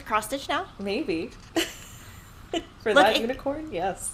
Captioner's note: laughing